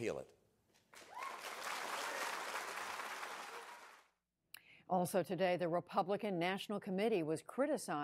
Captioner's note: cheering and applause